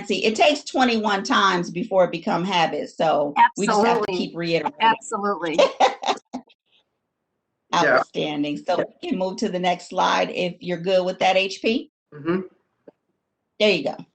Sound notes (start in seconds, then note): 7.8 laughs